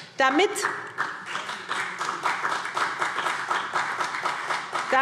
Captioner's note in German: Beifall CDU